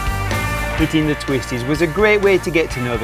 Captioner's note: voiceover